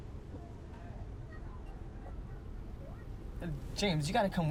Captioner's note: people chattering